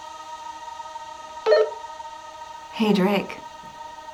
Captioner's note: walkie-talkie dings